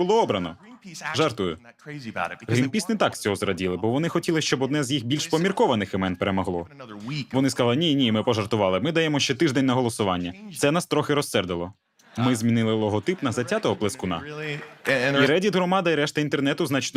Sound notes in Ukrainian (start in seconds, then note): 12.1 Сміх